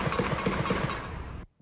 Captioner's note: gunshots